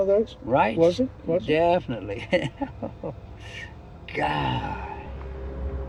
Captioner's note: laughs